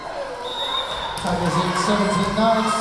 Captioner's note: cheering; whistle blowing